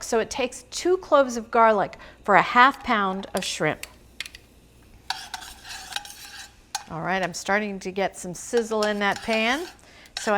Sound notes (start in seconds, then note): 5.0 tongs scraping